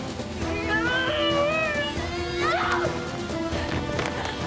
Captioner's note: groans with effort